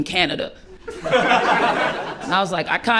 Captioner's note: laughter